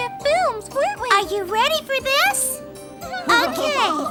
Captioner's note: children giggling